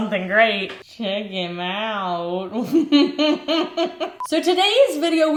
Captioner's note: laughs